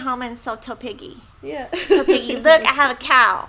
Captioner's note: laughs